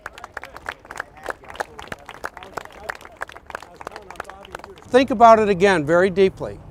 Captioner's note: applause